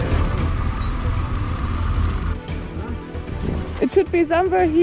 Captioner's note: engine roars